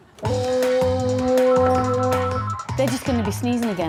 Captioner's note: plays horn; phone ringing